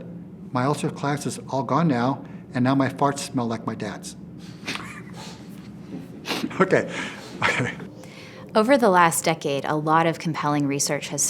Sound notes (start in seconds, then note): 4.6 laughs